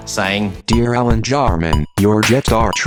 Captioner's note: computerised voice